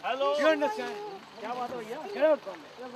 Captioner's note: speaking in foreign language